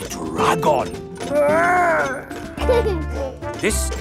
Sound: giggles

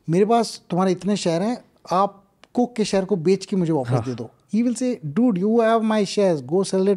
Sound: speaks in Hindi

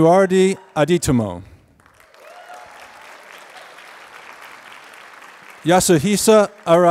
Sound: applause

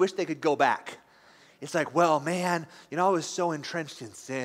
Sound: longingly

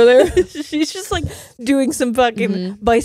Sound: both laughing

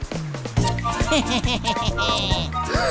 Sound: laughing

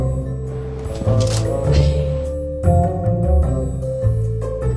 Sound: notebook thudding

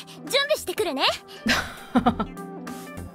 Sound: chuckles

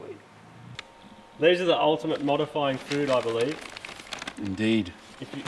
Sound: paper rustling

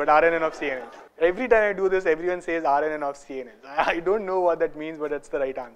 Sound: laugher

